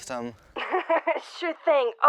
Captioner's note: laugh